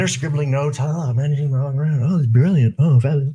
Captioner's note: murmurs